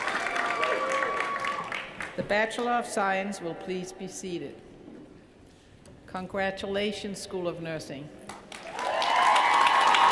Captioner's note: cheers & applause